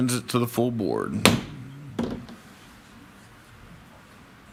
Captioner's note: mallet thudding